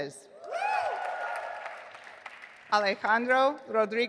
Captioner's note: audience applauding